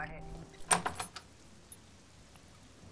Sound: door opens

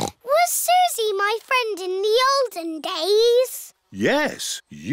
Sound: snorts

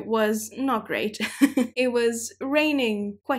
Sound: chuckling

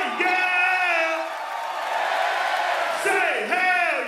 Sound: crowd

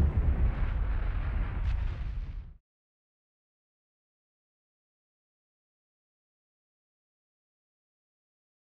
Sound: whooshing sounds

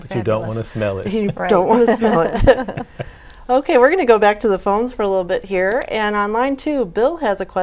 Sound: laughing

